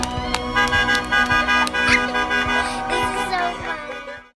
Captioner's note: laughs